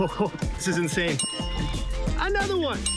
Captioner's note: text dings